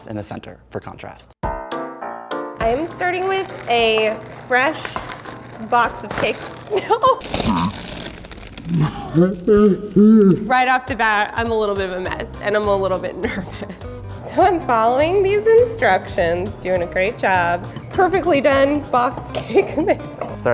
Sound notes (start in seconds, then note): 1.4 upbeat music; 6.4 laughs